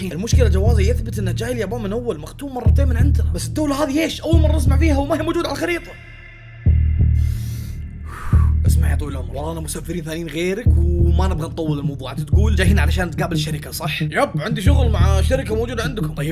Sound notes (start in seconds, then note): 5.8 deep breaths